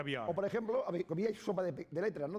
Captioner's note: speaking spanish